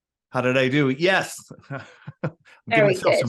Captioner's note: chuckles